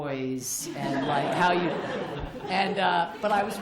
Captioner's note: laughter